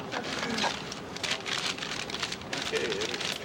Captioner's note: paper crinkling